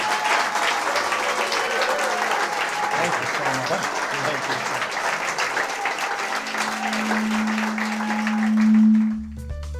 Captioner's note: applause